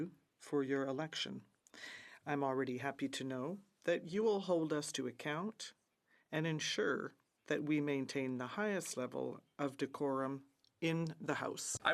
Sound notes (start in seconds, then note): 2.4 speaking French